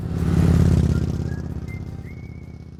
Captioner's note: engine rumbling